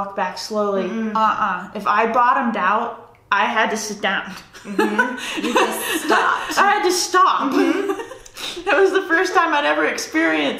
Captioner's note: laughs